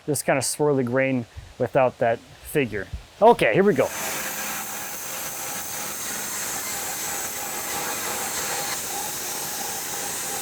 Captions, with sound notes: just kind of swirly grain without that figure. Okay, here we go. (saw humming)